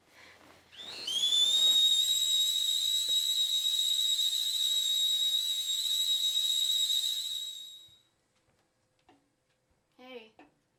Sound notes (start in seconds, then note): 0.7 tea Pot Whistling